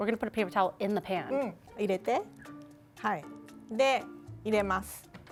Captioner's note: speaking Japanese